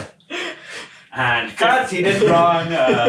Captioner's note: all laughing